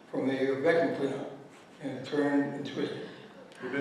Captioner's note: gasps